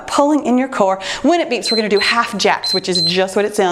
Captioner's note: timer beeps